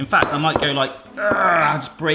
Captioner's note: grunts